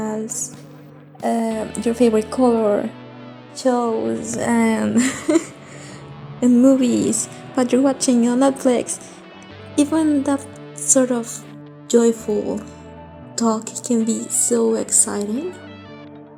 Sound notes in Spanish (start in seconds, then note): 4.9 risas